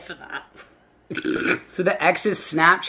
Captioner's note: laughing